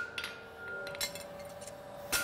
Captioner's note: machine noise